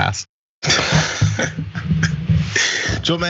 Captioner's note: laugh